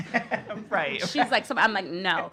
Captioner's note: laughter